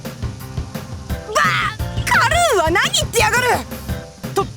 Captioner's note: sputter